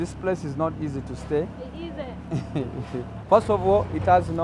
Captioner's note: laughs